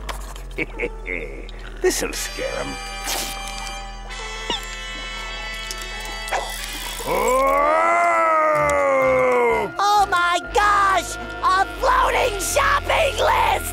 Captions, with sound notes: [chuckles] This will scare him. [moaning] Oh my gosh! A floating shopping list!